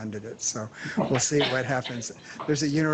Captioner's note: laughter